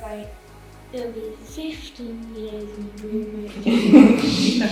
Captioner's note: laughs